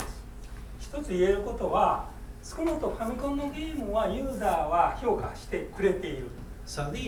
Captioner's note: speaking in foreign language